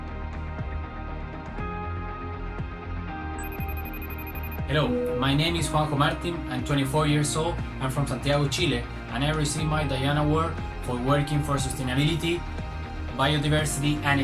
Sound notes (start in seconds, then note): 3.4 phone rings